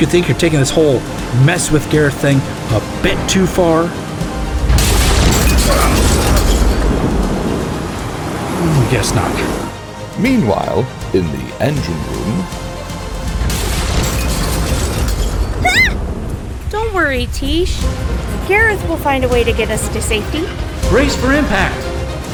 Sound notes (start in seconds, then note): 4.6 lightning strike, starboard tube shatters; 13.0 engine room sounds, rumbling as the GD plummets; 15.6 startled yelp